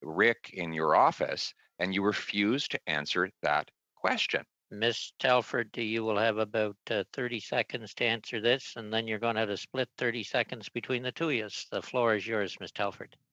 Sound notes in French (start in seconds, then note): 6.0 voix de l'interprète